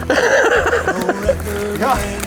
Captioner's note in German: lacht